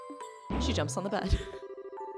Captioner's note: boing